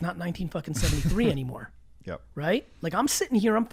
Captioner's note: laughs